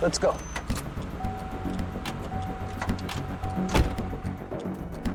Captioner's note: doors rattling; alarm beeping; doors thumping; suspenseful music